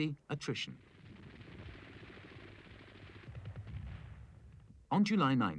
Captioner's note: weapons firing